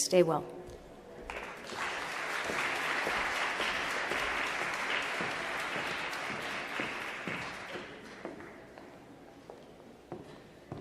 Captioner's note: applause